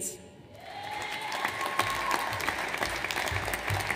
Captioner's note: audience applauds